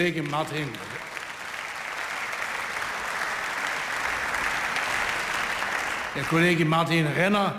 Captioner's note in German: Beifall